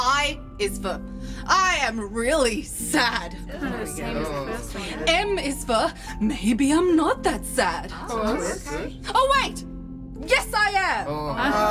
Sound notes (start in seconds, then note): 8.1 the crew are murmur hopefully